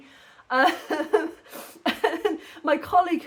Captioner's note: laughing